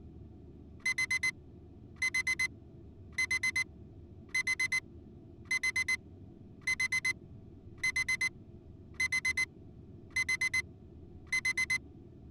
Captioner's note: alarm buzzes